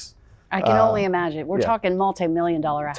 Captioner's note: laughing